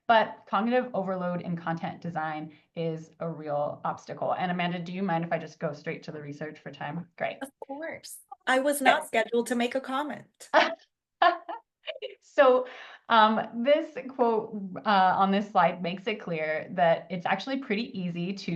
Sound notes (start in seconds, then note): 11.2 laughs